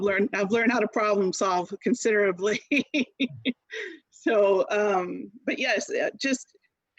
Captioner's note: laughter